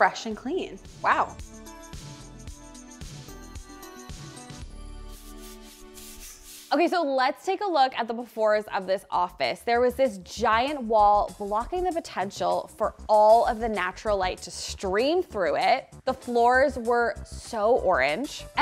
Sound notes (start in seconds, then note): 1.6 upbeat music; 5.1 transition sound effect